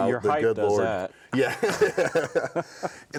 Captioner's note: both laughing